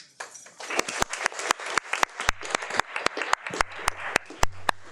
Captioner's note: audience applauding